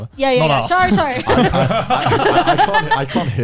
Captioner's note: all laughing